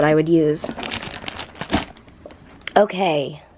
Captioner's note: plastic crinkling